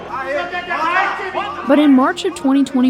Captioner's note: background yelling